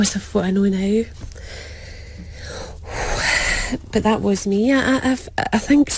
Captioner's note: Suspiro grande